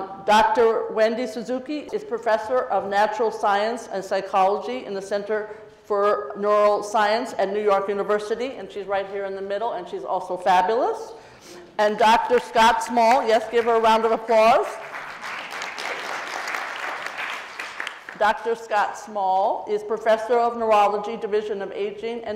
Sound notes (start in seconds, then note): 13.4 audience clapping